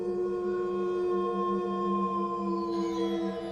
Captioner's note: wolf Howling